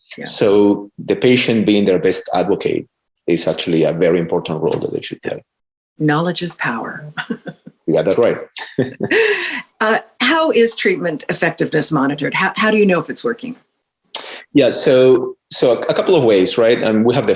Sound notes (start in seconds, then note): 7.0 laughs; 8.8 laughing